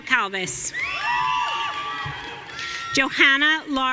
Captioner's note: audience cheering